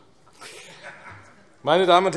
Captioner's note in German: Heiterkeit AfD